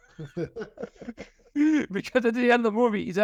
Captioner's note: laughter